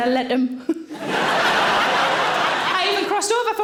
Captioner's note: audience laughing